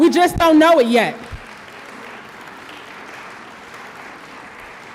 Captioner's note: audience applause